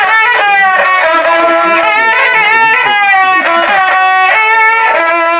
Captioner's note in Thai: ปรบมือ